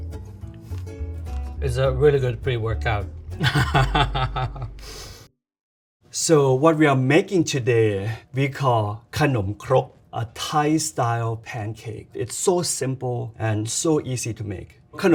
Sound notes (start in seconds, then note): 3.4 laughing